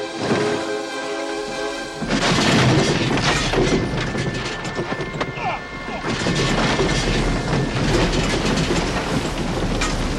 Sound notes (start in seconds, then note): 5.7 Cole grunting